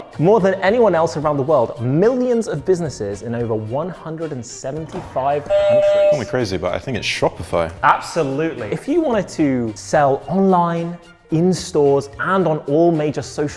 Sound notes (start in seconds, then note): 5.5 buzzer buzzes